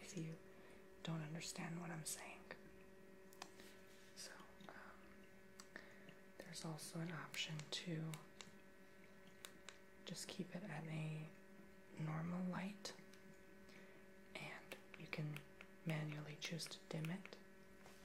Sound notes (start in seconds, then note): 7.3 click; 13.1 clicking